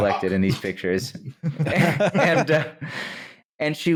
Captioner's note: laughter